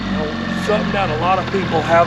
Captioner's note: boat engine running